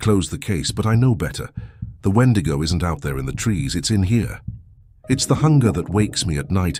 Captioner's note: taps chest